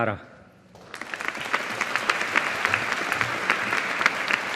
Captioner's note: audience applauding